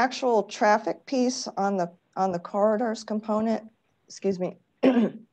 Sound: clears throat

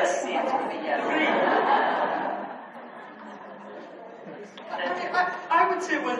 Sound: audience laughs

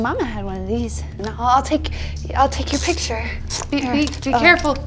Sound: camera whirring

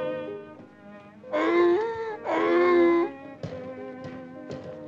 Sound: barks

